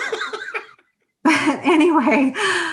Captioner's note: laughing